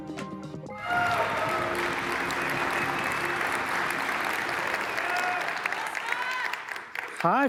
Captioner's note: applause